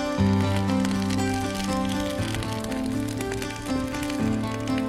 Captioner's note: fire crackling